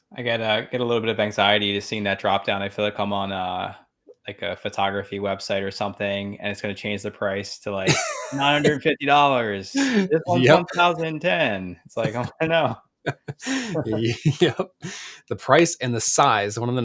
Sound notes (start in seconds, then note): 11.9 laughs; 13.0 both laughs